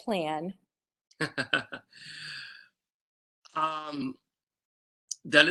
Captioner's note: laughs